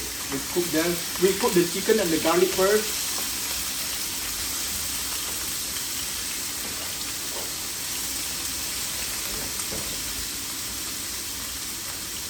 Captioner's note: cooking sound